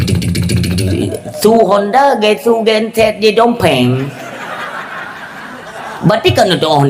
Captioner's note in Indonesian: tertawa